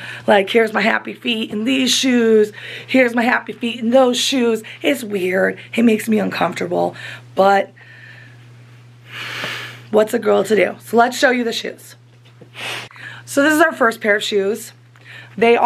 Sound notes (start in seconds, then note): 8.3 sighs